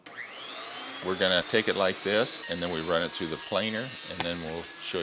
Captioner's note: grinding sound